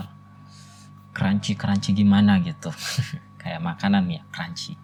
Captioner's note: laughs